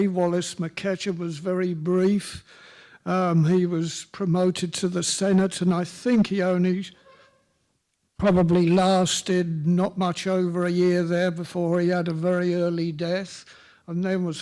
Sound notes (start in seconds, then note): none